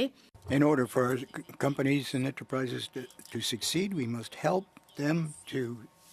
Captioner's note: speaking French